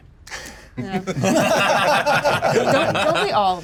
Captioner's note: laugh